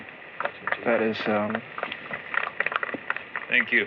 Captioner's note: applause